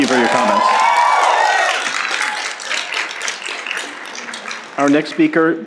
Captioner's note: applause and Cheering